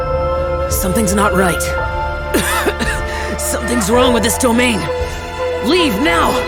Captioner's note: cough